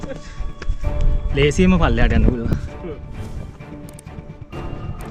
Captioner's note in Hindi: हाहा